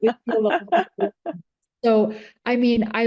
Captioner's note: laughing